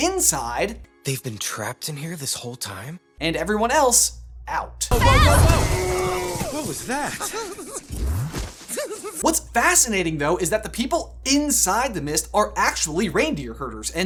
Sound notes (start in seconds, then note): 5.9 Olaf giggles